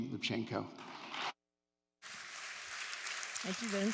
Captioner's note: applause